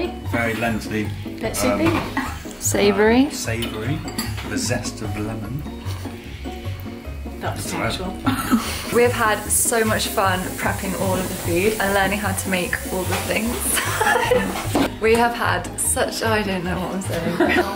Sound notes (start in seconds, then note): 13.8 laughing